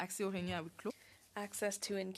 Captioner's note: speaking French